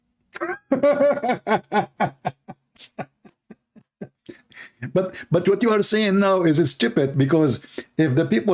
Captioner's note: Ketawa